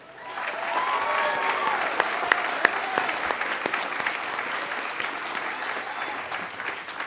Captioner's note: applause